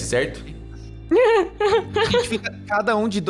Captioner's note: laugh